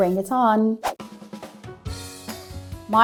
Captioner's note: mid-tempo instrumental music; screen whooshes